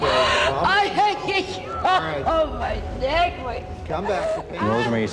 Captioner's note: crying